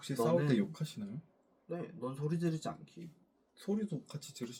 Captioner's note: confident